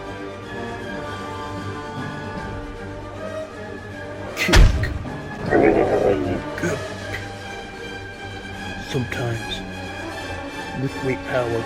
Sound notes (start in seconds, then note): 4.4 groan of minor pain